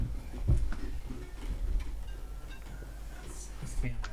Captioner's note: phone ringing